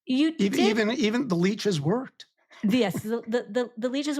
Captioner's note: laughs